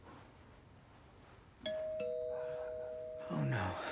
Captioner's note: doorbell rings